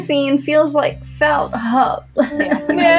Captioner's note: groan; whine